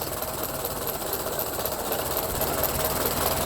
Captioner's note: engine idles